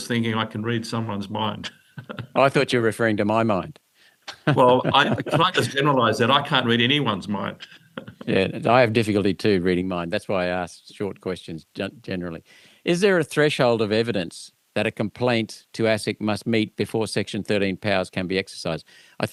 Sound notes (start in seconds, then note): 1.6 chuckling; 4.2 both chuckling